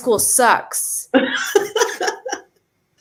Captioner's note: laughs